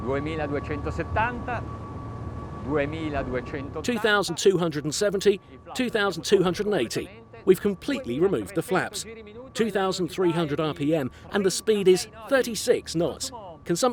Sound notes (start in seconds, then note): 0.6 speaking in foreign language